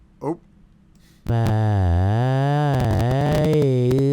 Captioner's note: weird voicebox noises again